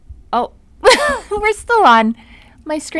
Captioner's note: chuckles